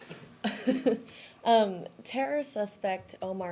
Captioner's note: laughter